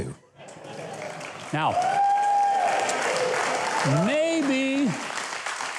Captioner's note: audience cheering